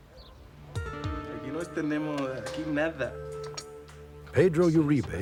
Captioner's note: speaking spanish